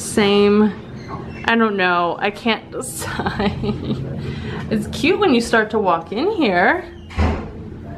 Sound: whining

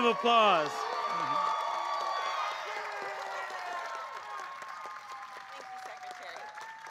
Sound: applause

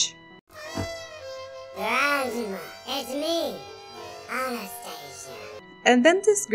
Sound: pitch up

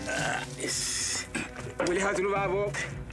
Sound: Portuguese spoken audio

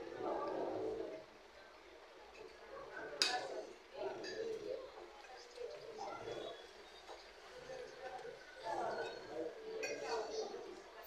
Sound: ambient restaurant sounds

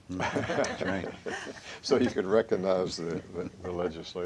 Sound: chuckles

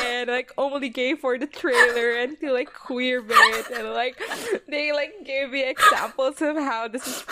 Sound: still laughing

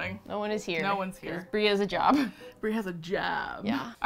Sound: laughs

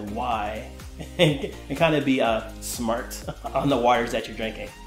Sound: chuckling

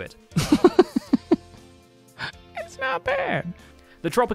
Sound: giggling, voice squeaking

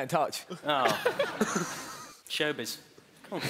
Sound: laughing

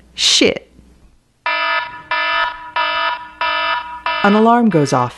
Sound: alarm ringing

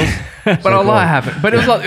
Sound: all laugh

